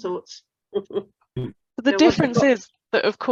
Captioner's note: chuckles